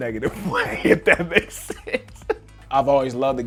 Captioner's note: laughing